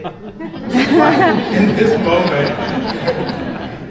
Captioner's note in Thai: เสียงหัวเราะ